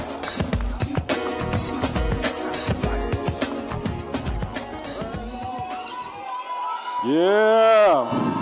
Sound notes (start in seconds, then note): 6.2 audience cheering